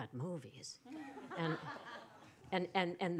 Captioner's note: laughter